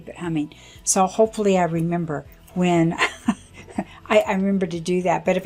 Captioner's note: laughs